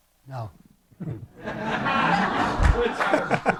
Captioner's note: laughter